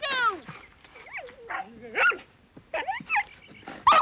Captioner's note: barking